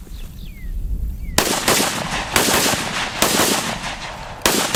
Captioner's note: gun fires many times